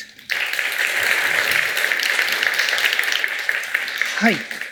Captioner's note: applause